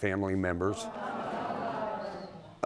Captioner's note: audience groaning